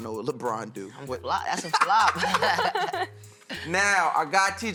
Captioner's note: laughter